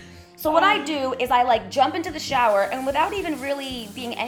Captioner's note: shower running